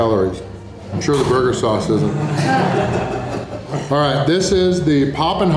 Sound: haha

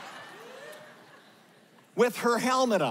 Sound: laughter

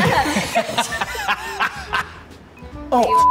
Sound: both laugh

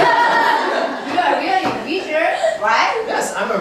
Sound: laughing

